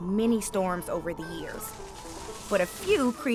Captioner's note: wind howling